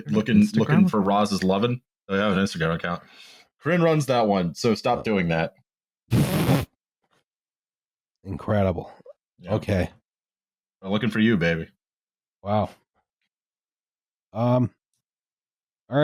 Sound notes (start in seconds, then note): 6.1 spit take